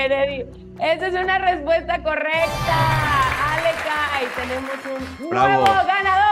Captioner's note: applause